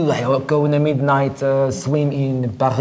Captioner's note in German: imitiert einen französischen Akzent